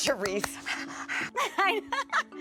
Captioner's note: panting